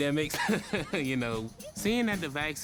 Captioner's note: laughs